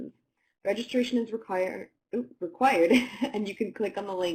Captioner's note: laughter